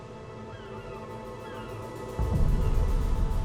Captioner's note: seagulls squawking